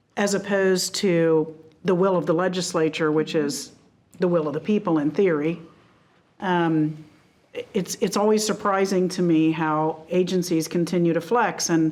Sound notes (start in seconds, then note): none